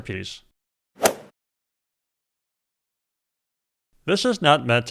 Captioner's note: golf swing sound effect